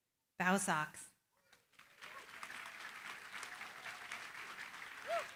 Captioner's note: applause